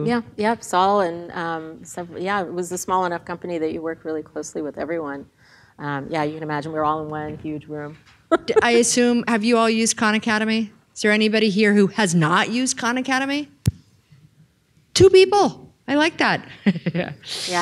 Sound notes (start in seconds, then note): 8.3 laughs